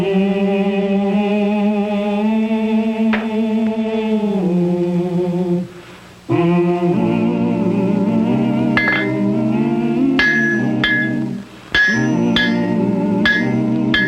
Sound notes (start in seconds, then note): 1.8 gentle vocal music; 10.4 hammer clanking